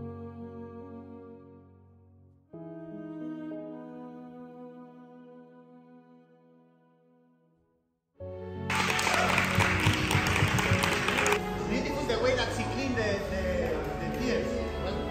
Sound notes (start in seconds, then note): 8.6 applauses